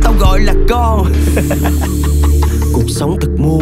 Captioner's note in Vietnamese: haha